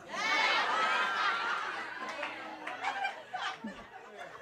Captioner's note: audience cheering